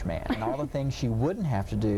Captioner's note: laughing